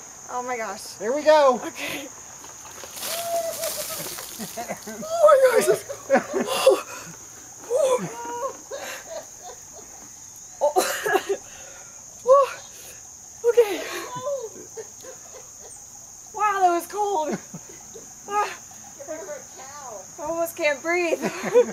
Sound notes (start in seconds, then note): 3.6 grandma laughing; 10.6 coughs